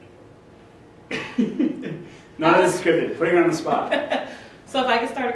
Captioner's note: laughs; laughs